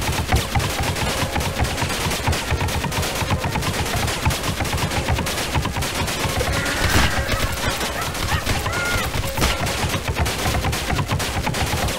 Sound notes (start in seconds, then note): 6.3 loud Laughing